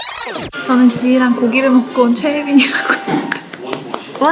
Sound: laughs

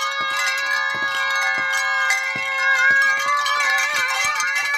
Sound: wind chimes clanking

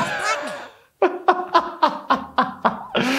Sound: laughs

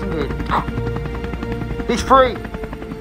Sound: radio hiss; radio Voice

